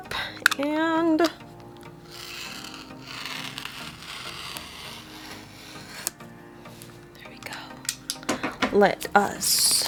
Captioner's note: sound of knife cutting through shrink wrap